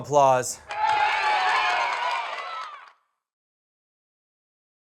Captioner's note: cheering